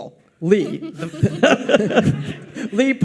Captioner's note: audience laughs